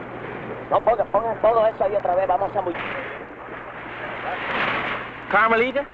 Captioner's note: men speaking in Spanish